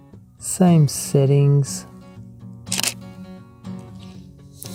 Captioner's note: shutter click